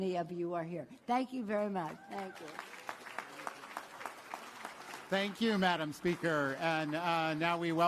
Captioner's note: applause